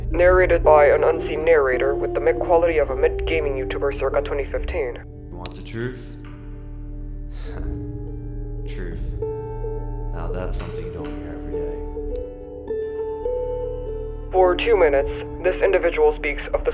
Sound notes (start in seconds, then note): 8.7 narrator: *Snort